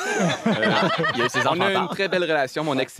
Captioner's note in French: rires